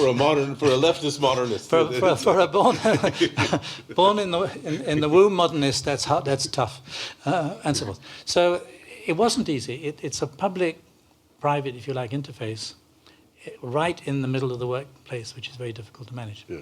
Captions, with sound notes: For a leftest modernist. For a-- [laughter] Born in the womb modernist, that's tough. So it wasn't easy. It's a public-- private, if you like-- interface right in the middle of the workplace which is very difficult to manage.